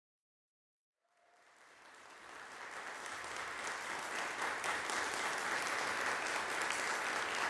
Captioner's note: applause fades in; applause continues